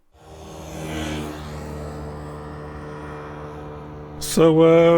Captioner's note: shitty 2-stroke engine noise